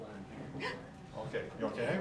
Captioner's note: shrieks